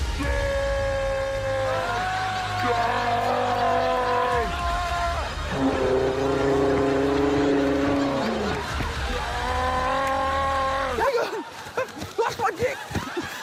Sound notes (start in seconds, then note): 1.2 continue yelling